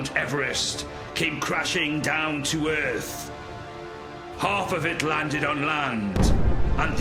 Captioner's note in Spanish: explosión